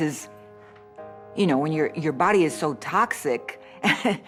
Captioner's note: chuckles